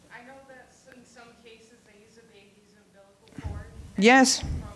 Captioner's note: distant voice